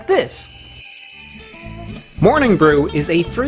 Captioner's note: chimes tinkling